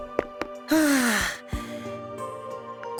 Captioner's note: sigh